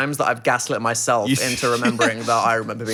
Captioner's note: laughing